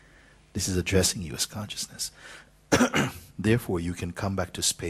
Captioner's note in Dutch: hoest